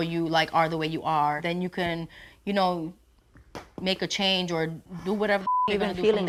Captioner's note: beep